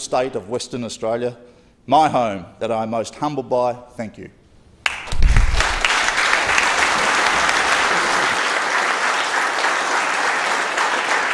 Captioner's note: applause